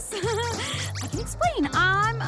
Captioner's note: laughs